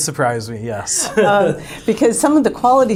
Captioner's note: laughing